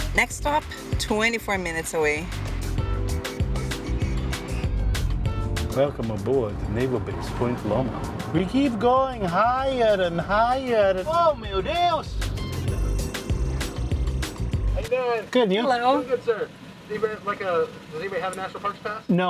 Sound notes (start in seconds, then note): 11.3 in Portuguese